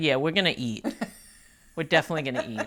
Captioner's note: laughing